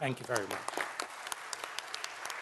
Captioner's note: applause